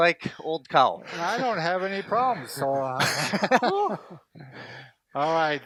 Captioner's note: laughs